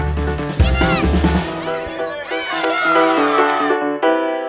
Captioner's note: children cheering